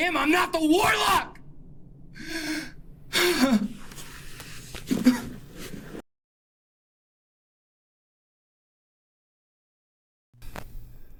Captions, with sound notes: Please, I'm not him, I'm not the Warlock! (sobs)